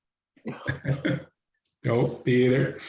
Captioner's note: chuckles